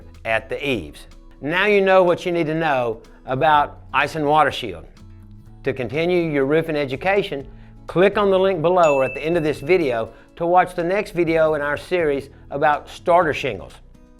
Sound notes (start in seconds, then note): 8.8 bell chimes